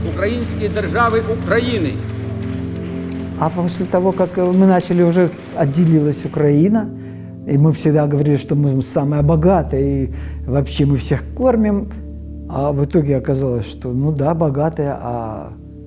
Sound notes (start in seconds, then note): 1.7 applause